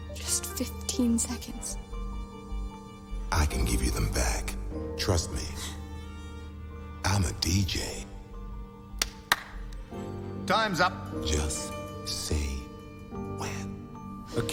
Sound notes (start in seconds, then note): 8.9 Harry claps